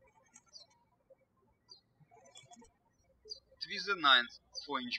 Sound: birds chirping

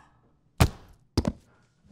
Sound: thunk; thud

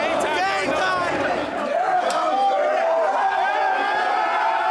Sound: team cheering

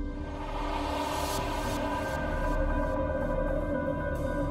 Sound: eerie whooshing; soft dramatic music

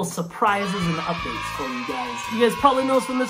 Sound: cheering

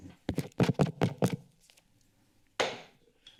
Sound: microphone tapping

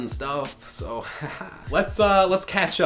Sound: fake laugh

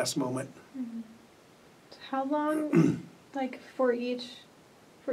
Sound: clears throat

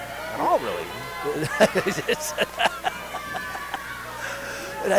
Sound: Tony laughing

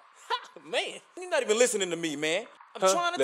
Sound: laughs

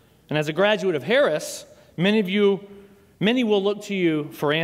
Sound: none

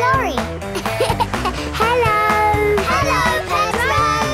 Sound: laughing

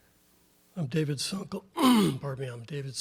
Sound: clears throat

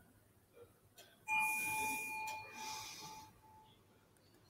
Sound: bell chimes

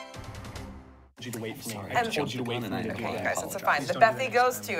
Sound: whispered argument

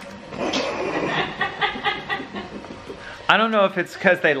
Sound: laughs

